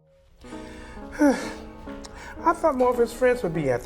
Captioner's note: sighs